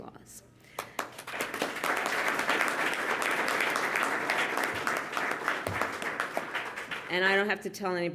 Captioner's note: applause